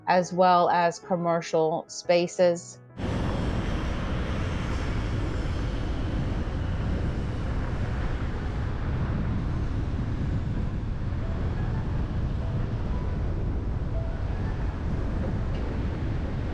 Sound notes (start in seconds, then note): 3.0 traffic humming; 3.6 tranquil music